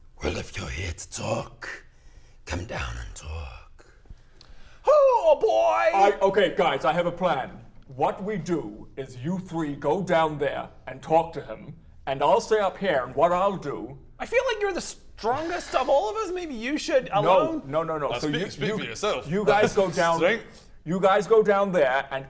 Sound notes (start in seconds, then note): 0.2 deep, gravelly voice; 4.9 high-pitched cowardly voice